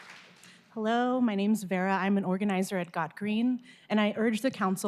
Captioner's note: applause